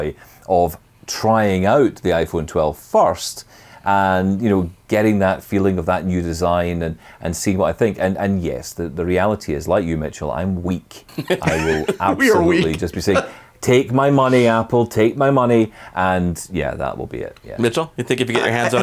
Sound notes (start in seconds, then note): 11.1 laughs